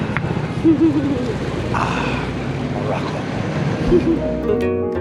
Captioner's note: laughing